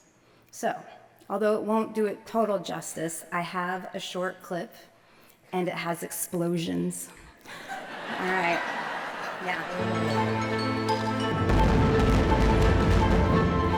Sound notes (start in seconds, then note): 7.4 laughter